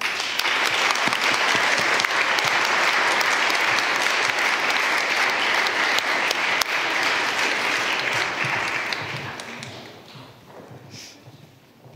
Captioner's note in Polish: oklaski